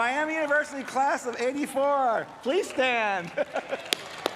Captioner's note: applause